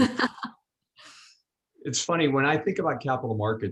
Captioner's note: laughs